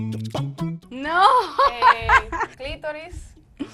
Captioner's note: laugh